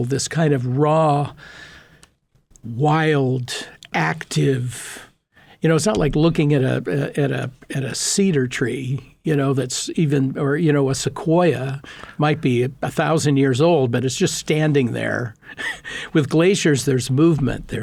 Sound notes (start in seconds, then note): 15.5 laughing